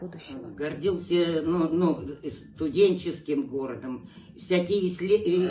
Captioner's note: speaking foreign language